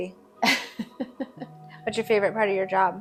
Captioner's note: chuckling